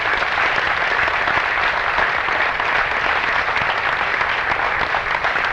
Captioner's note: applause